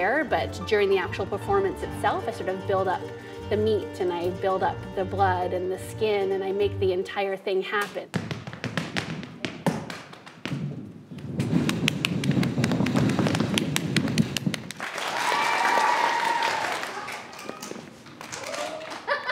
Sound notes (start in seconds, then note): 8.1 feet and hands tapping rhythmically; 14.2 audience applauding and cheering loudly